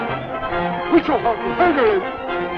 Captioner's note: speaking Native American language